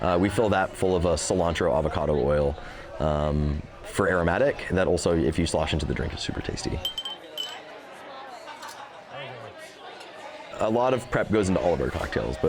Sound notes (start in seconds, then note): 5.7 people murmuring; 6.8 ice clinking